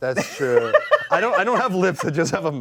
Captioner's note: laughs